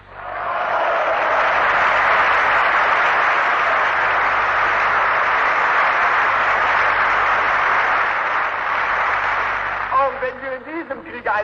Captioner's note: applause